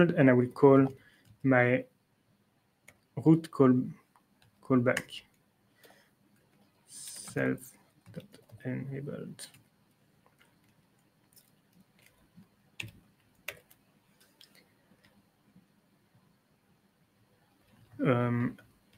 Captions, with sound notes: And I will call my root callback self.enabled. [TYPING]